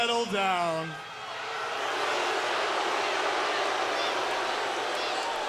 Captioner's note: crowd jeering